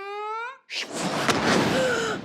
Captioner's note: smash; gasp